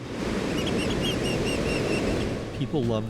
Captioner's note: waves crashing; seagulls cawing